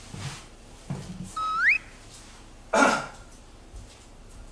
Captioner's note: clearing throat